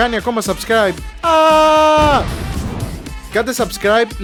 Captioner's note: explosion